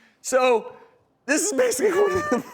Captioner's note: laughs hysterically